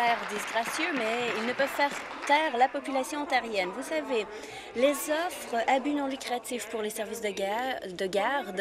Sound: applause

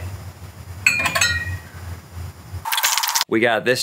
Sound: bottles clinking

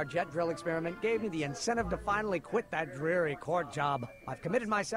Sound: none

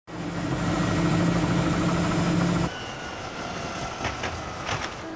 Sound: helicopter blades whirring

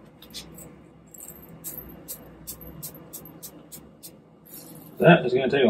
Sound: tapping the shaker

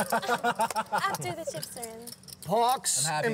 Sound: laughter

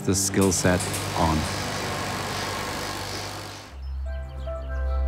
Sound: machine buzzing

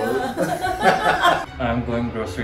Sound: both laughing

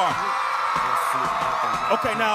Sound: applause

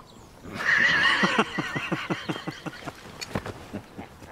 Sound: laughter

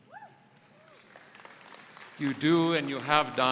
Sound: audience applauding

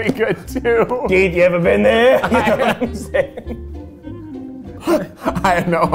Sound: laughing heartily

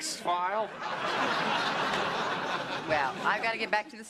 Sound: laughter

